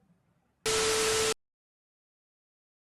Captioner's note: TV static